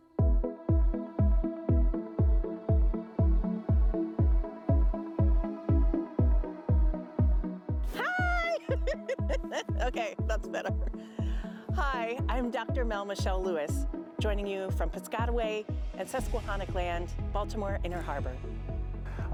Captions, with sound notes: (upbeat electronic music) Hi. (laughs) Okay, that's better. Hi, I'm Dr. Mel Michelle Lewis, joining you from Piscataway and Susquehannock land, Baltimore Inner Harbor.